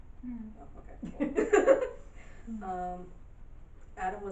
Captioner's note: audience laughing